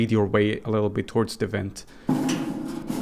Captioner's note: whispering ends